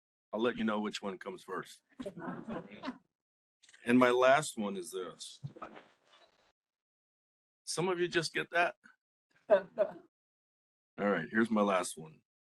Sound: laughing; laugh

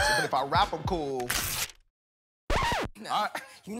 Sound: record scratches

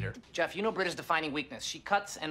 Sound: none

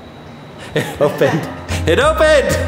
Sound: chuckles

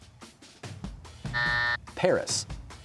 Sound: buzzer

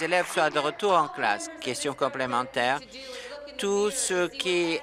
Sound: applause

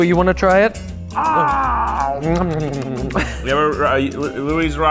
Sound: pretend gobbling

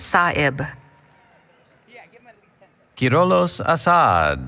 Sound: background Conversation

